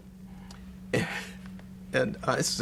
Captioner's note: laughs